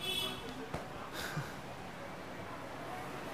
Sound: scoffs

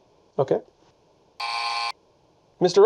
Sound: buzzer buzzes

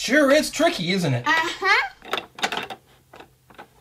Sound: voiceover

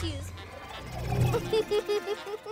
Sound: snickers

